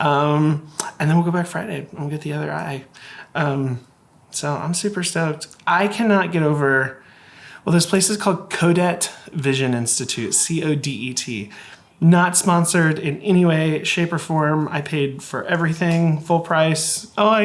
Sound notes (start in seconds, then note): none